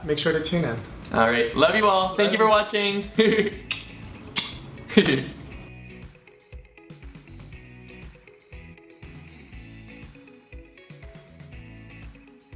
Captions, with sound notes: - Make sure to tune in. - All right, love you all! Thank you for watching! (giggling) (soft music)